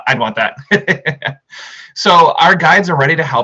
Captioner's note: laughs